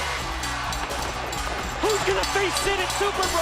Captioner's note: bell ringing